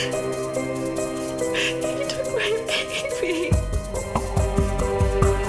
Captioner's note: crying; suspenseful music